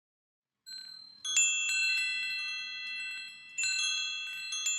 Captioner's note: chimes jingling